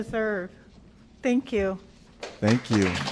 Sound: applause

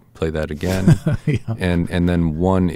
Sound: laughter

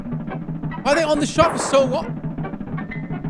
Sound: gunshots

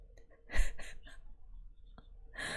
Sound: laughs

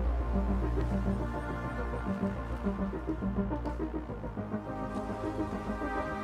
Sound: footsteps

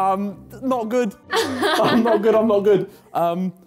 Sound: lady chuckles

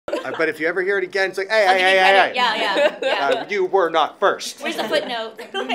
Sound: laughing

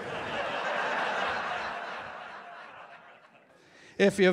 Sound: laughter

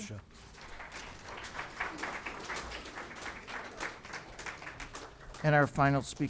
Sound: applause

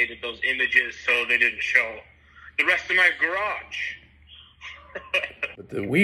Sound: laughs

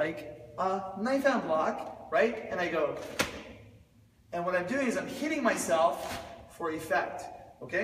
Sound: slap!

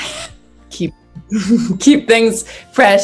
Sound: laughs

